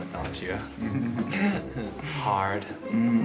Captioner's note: laughing